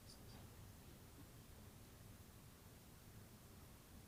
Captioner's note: indistinct chatters